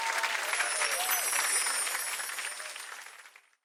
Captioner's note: soft jingles